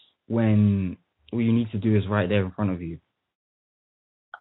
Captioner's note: none